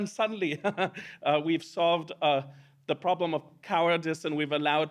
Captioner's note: laughs